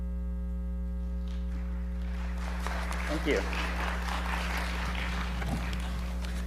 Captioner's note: audience applauds